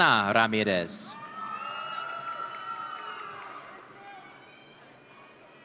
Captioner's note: audience cheering